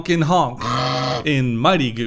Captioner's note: goose honk